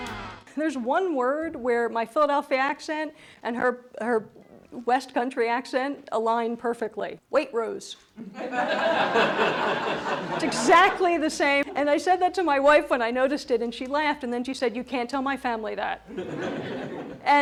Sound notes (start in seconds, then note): 0.0 energetic music; 8.2 laughter